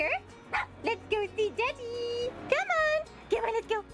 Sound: dog barks

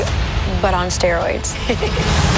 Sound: laughing

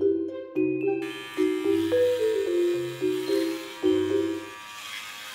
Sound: shaver buzzing

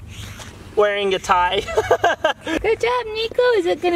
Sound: chuckles

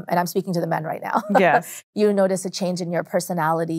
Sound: laughs lightly

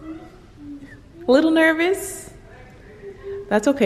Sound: distant murmurs

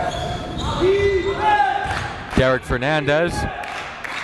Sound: crowd cheers "Defense"

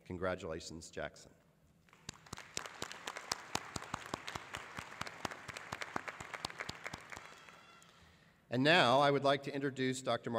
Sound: applause

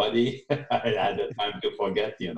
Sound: laughs

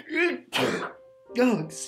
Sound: sneezes

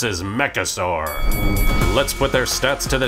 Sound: ding ding ding

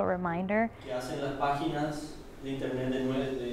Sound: Spanish

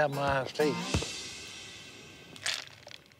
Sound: ice cubes rattle

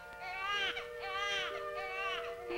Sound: baby crying

